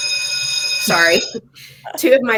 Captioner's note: school bell rings